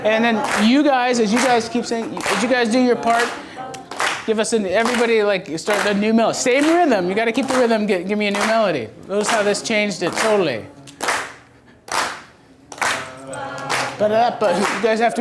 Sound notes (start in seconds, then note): 11.8 clapping